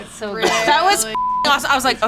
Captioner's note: beep